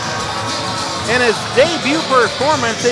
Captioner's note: cheerful rock music; cheering